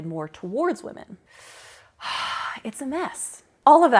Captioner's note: dramatic sigh